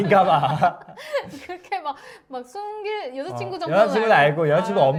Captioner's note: laughs